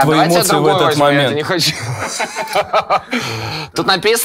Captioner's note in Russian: все смеются